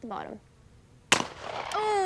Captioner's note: shotgun banging